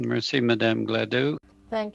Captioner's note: speaking French